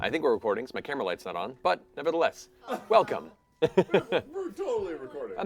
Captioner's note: laughs